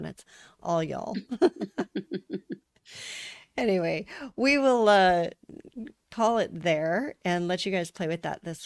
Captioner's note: laughter